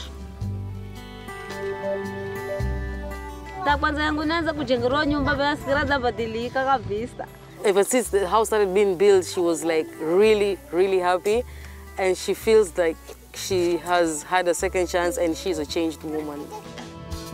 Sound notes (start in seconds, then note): 3.8 speaks in Giriama